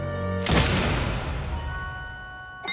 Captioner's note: smash